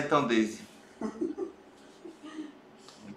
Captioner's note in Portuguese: risos